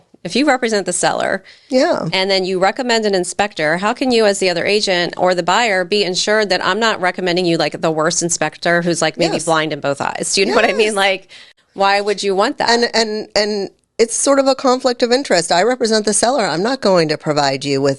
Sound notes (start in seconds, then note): 10.4 chuckles